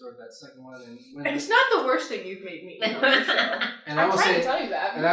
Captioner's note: laughter